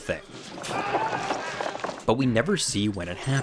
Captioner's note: Palmer growling